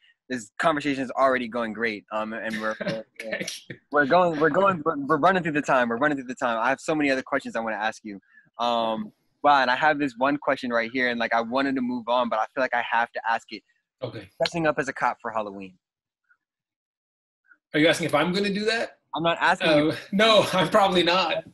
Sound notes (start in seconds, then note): 2.4 chuckles